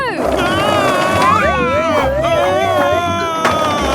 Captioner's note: shouting